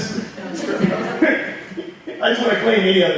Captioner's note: audience laughing